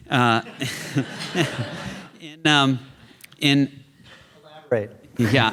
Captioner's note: chuckles